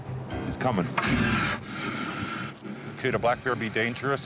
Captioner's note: bear growling